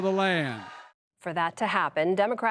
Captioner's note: cheering and applause